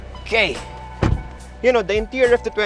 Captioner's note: door thuds